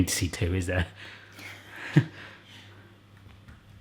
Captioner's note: laughs